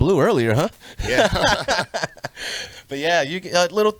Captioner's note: group laughs